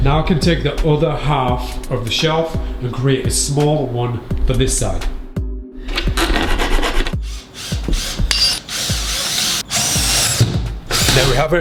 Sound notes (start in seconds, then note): 6.6 metal scrapes; 7.2 drill whirs; 7.7 metal clangs